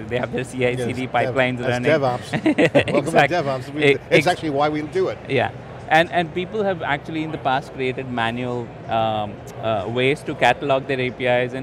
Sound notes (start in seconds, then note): 2.0 laughing